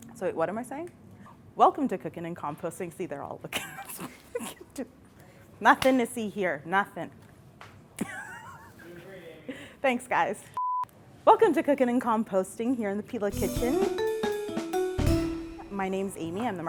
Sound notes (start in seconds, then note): 4.1 laughing; 8.0 laughing; 10.6 beeping; 13.3 upbeat music